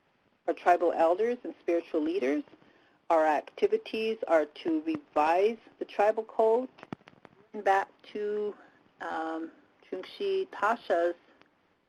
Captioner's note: native language spoken